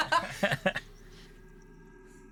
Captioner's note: sighing